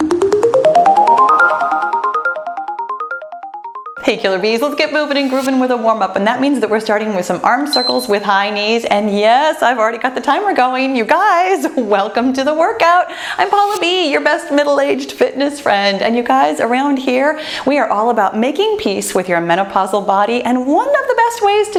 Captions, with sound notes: (cheerful music) Hey Killer Bs, let's get moving and grooving with a warmup, and that means that we're starting with some Arm Circles (timer beeps) with High Knees, and yes, I've already got the timer going. You guys, welcome to the workout. I'm Pahla B, your best middle-aged fitness friend and, you guys, around here, we are all about making peace with your menopausal body, and one of the best ways